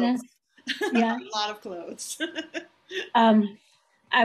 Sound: laughing

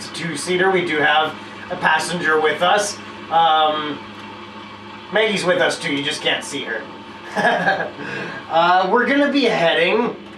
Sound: laughter

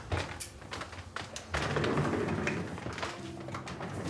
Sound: footsteps; chair wheels scraping on floor

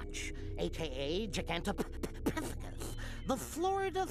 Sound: stuttering

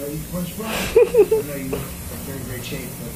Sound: laughs

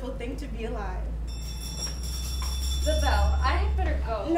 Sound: bell rings

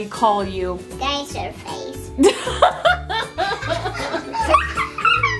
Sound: laughs

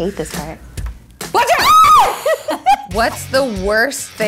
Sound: screaming

